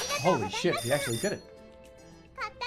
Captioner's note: none